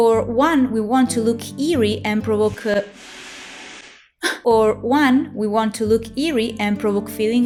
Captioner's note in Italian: rumori dell'inferno